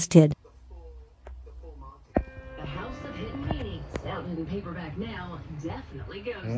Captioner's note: TV continues playing